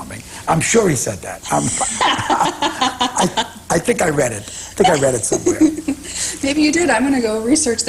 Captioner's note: laughter